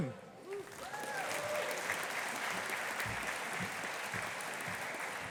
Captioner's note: audience applauding